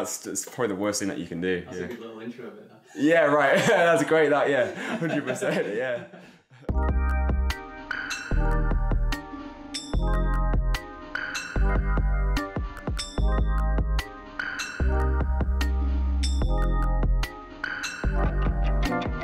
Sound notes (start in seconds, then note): 4.5 laughs; 6.7 gentle music